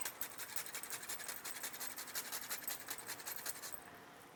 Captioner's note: grater scraping